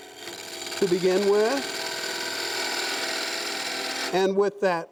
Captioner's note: metal scraping